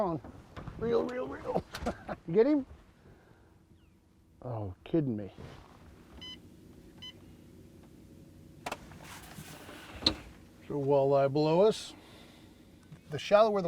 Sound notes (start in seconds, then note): 1.4 chuckling; 6.2 beep, beep